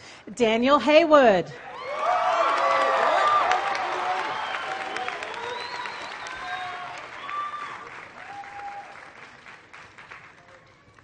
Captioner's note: applause